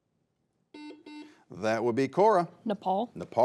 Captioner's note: buzzer beeping